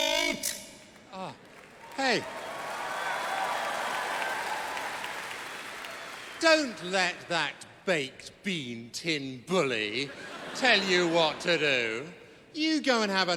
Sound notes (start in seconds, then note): 4.0 audience applauds; 10.0 laughter